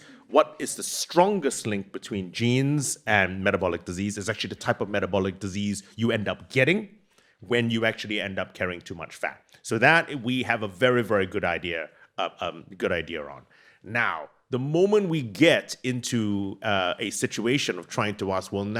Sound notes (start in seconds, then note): none